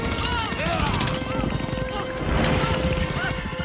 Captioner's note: none